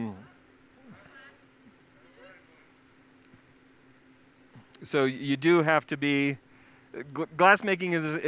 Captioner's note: pause